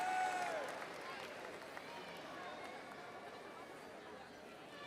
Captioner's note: overlapping chatter